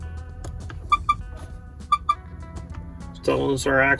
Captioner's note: truck honking